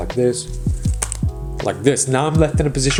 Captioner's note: cards landing